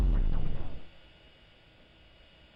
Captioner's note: silence